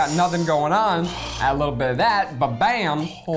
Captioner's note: humming